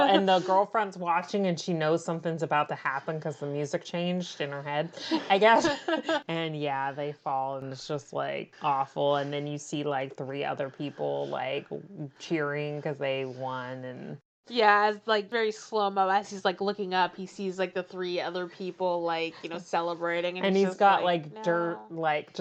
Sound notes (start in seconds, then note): 5.0 laughs